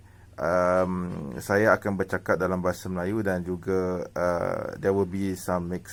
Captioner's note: Malay language